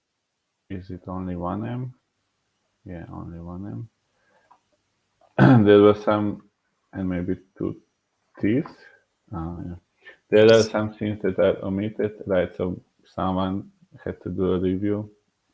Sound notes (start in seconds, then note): 5.4 clearing throat